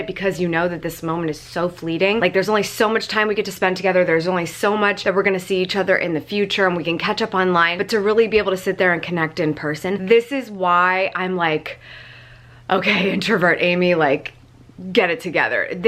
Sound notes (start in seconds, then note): 11.8 inhales deeply